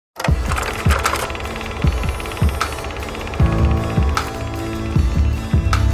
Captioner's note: film projector rattling